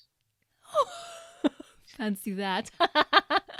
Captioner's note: laughs; laughs nervously